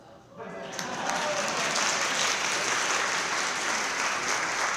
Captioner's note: crowd cheering